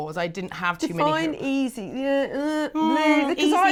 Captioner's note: softly grunts